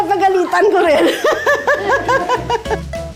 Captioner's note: laughs